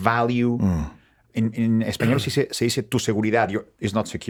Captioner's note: speaking in Spanish